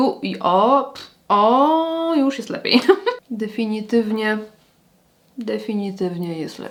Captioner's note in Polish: śmiech